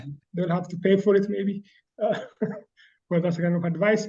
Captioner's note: chuckles